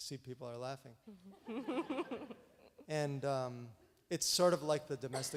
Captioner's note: audience laughs